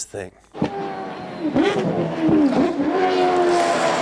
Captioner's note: engine revving